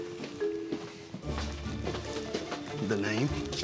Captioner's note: footsteps